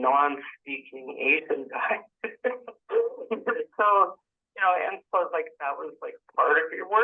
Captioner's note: laughs